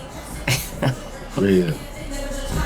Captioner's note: June laughs